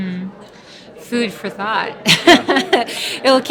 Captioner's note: laughing